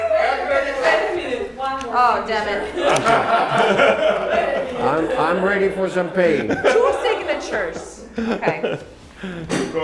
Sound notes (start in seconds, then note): 2.5 laughs; 6.2 laughing